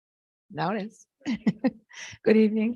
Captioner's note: laughs